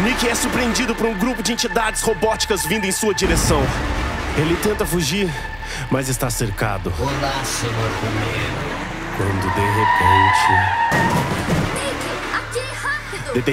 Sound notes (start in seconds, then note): 10.8 car running over robotic entities